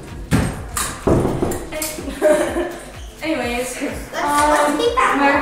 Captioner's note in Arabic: شخص يقرع الباب